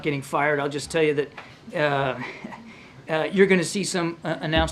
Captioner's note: laughs